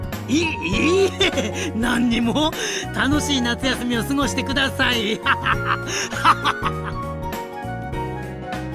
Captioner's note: laughs